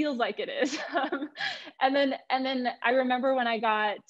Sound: laughter

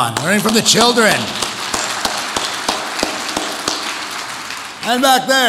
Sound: audience applauds

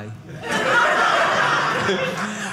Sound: audience laughing

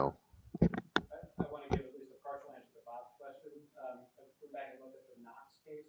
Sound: man speaks softly

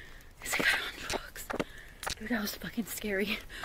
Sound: camera clicking

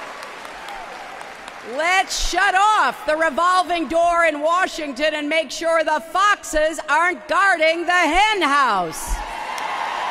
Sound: applause

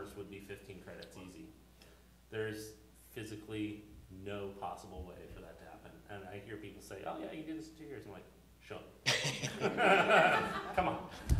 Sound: laughter

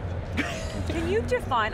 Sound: laughs

